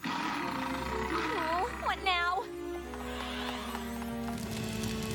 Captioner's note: roar